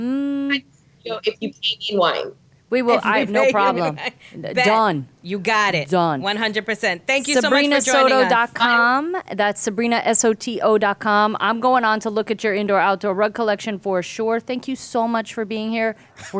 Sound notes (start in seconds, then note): 2.9 laughing